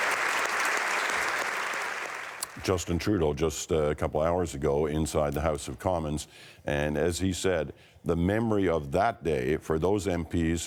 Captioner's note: applause